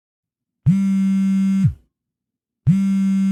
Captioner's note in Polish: wibracje telefonu